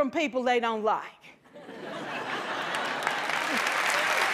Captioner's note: laughter; applause